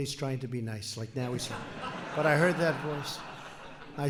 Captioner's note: laughter